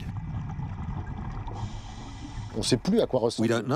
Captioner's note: water gurgling; speaking in foreign language